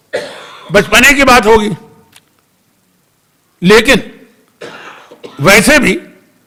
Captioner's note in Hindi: गला साफ़ करने की आवाज़